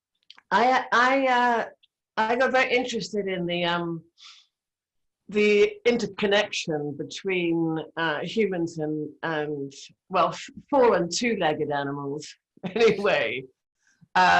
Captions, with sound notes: I got very interested in the interconnection between humans and, well, four- and two-legged animals (laughing) anyway,